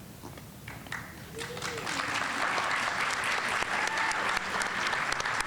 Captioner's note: audience applauding